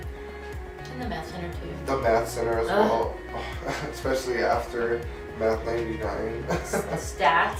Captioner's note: sighs